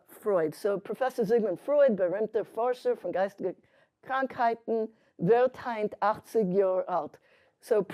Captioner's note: speaking yiddish